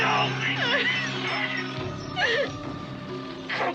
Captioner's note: Lisa cries